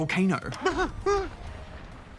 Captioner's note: whimpers